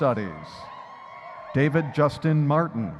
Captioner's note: audience cheering